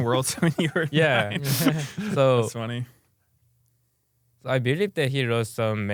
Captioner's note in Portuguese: risos